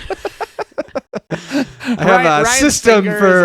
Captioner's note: laughing